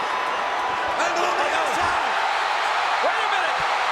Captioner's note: crowd cheering drowns out commentators